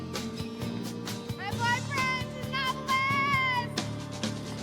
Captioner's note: shouting